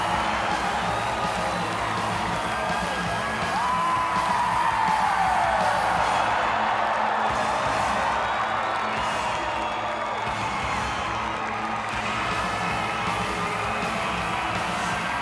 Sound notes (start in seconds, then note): 0.0 crowd cheers; 0.0 entrance music continues; 5.3 crowd continues cheering